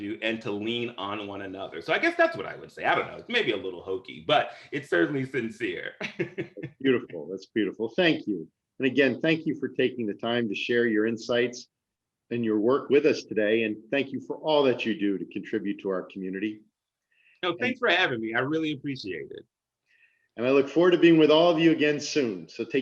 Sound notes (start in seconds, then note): 6.0 laughter